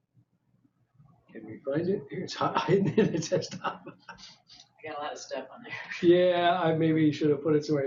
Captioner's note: talking to self